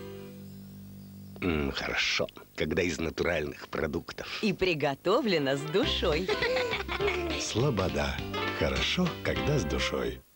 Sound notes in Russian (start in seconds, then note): 6.2 смех